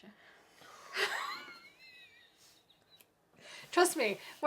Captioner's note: laughs